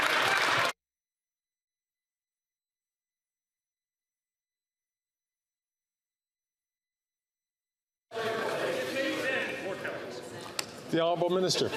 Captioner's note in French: applaudissements